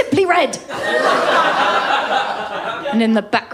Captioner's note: laughter